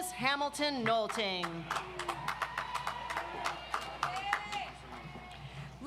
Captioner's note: audience applauds